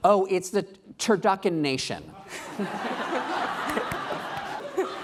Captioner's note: laughing